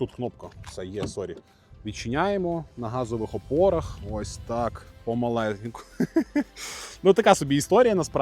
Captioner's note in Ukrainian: сміх